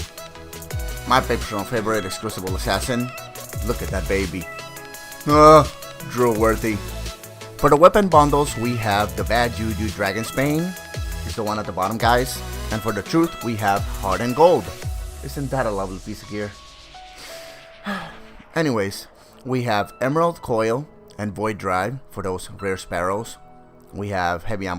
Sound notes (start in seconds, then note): 17.2 sigh